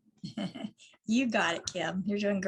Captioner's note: laughs